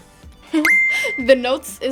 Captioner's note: bell chiming